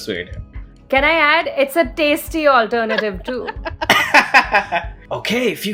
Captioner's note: laughter